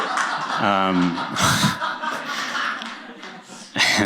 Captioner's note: laughter; chuckles